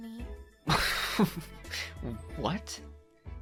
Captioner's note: joshua chuckles